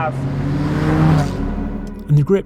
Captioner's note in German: Motordrehzahl steigt an